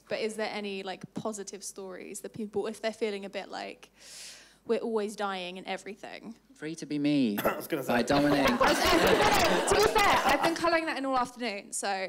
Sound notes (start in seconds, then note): 7.3 coughs; 8.0 audience laughing